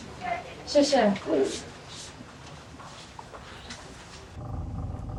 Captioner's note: speaking in foreign language